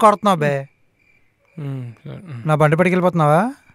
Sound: Balu murmuring

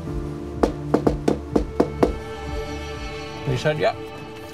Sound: hand knocking

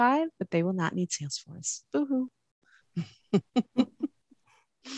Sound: laughs

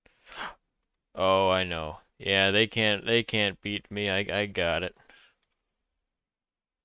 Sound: gasp

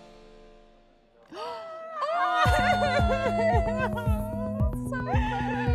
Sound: gasping

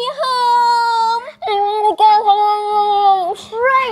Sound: muffled indistinct screaming

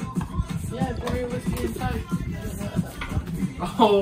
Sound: laughing

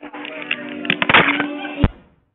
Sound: phone rings

